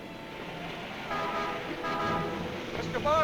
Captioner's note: horn honks